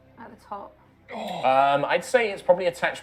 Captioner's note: gasps